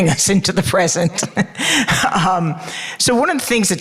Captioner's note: laughing